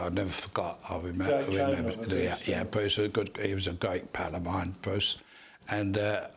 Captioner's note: Voices in background agree with Freddie